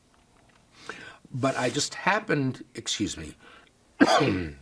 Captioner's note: coughs